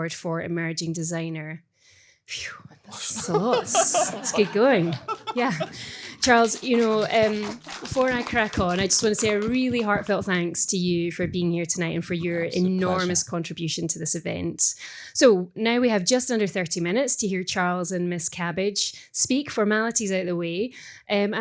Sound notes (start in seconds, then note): 2.8 gasping; 7.1 group clapping